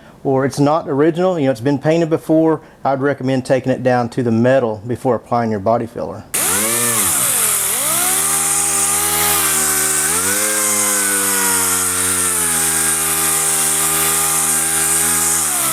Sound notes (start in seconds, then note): 6.4 sander whirring